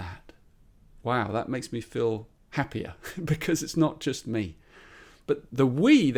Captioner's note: chuckles